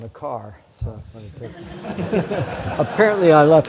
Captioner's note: laughter